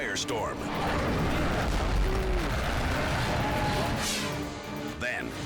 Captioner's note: jet explodes